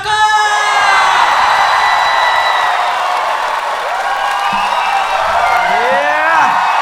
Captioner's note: crowd applauding